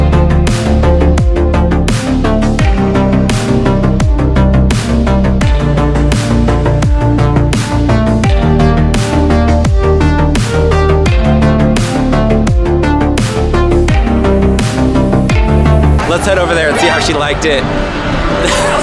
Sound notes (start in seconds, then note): 16.6 surprise sound; 18.2 laughs